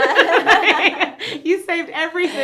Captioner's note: both laugh